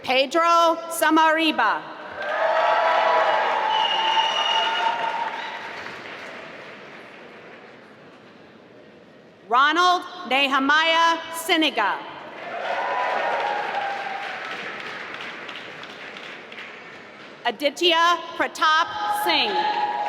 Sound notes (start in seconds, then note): 2.1 applause; 12.3 applause; 19.6 applause